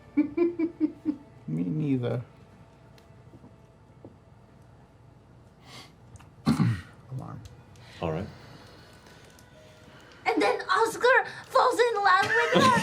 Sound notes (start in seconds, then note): 7.3 poof